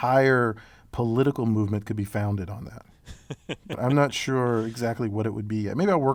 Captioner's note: laugh